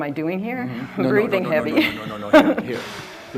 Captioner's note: laughs nervously